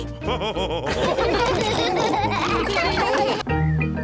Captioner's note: all laughing